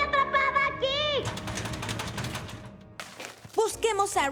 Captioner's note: door rattling